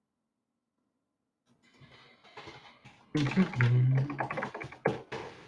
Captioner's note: keyboard clacking